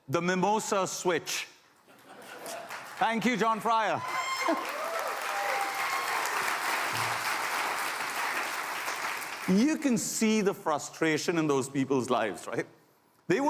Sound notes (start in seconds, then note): 2.5 applause